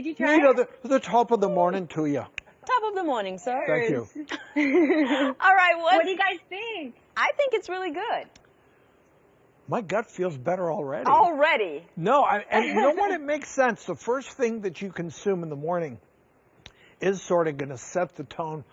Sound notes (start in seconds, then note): 4.2 chuckles; 12.5 giggles